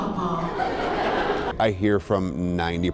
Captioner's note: laughter